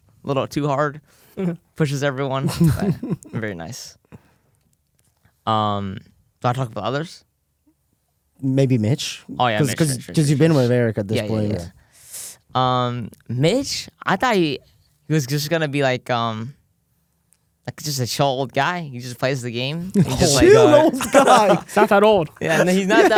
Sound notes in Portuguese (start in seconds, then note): 2.4 risos; 19.9 risos